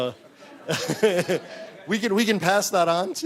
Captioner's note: laughter